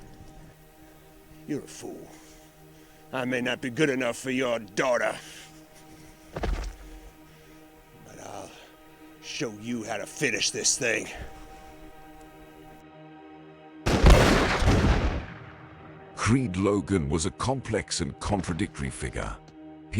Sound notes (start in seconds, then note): 12.9 suspenseful music; 13.8 gunshots blasting